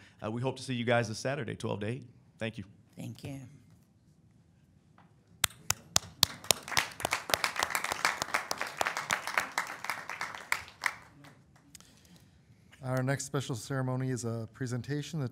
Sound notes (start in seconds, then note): 5.5 audience applauding